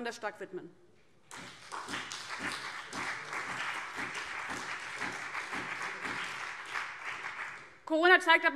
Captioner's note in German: Beifall BÜNDNIS 90/DIE GRÜNEN und vereinzelt SPD